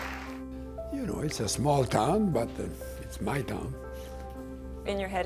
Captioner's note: applause